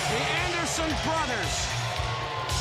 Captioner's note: crowd cheering